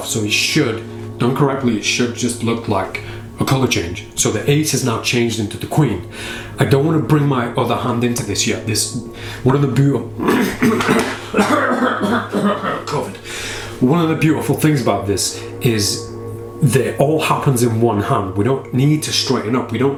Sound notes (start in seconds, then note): 10.2 clearing throat violently